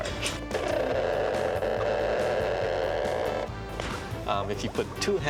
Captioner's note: <i> crackling</i>